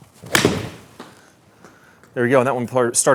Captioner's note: golf ball pings